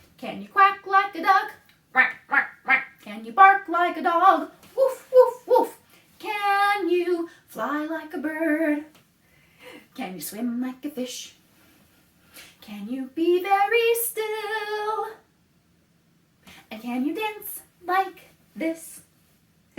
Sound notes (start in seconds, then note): 1.9 quack, quack, quack; 4.7 woof, woof, woof